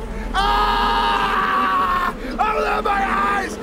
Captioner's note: screams